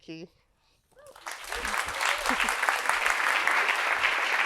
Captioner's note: audience applauds